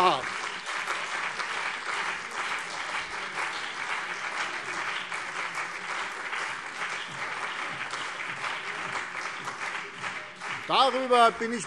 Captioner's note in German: Anhaltender Beifall CDU und BÜNDNIS 90/DIE GRÜNEN